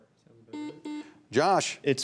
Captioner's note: buzzer buzzing